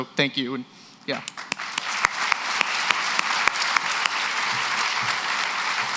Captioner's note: applause